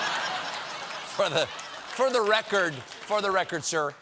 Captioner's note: laughter